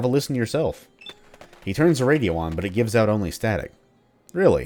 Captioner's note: he turns the radio on but it gives out only static